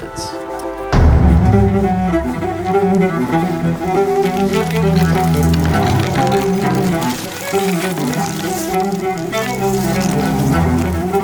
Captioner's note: rushing though snow to the door